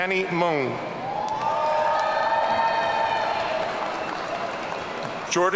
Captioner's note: audience cheering